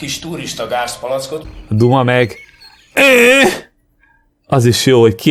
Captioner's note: making the sound of an exclamation point